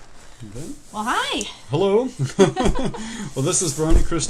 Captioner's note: laughing